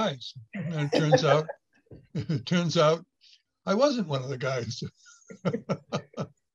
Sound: laughs

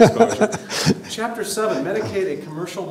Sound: laughter

